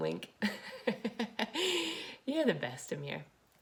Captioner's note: laughs